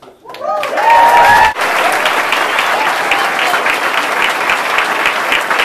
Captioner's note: audience cheering and applauding